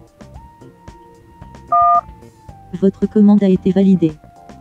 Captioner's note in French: son de touche de téléphone